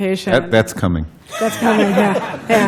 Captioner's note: laughter